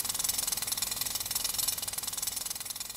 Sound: more Jack Hammering

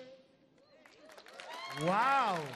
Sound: audience clapping

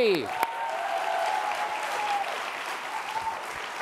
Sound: applause

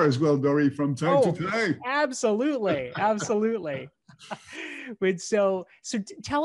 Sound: both laughing

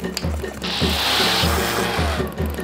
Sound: intense drum music; reef blower sucks

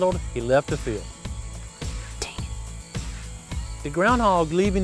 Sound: whispering

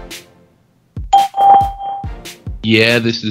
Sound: hip hop music; bell chimes

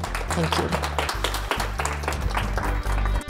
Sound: applause

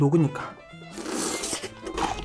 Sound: slurp

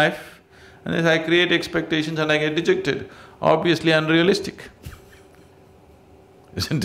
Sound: laughs

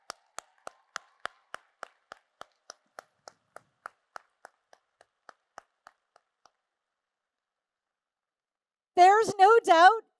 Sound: applause and Cheers

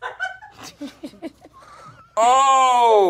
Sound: laughing

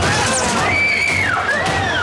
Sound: screaming

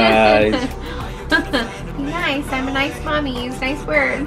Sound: laughs

